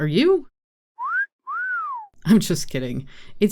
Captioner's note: wolf whistle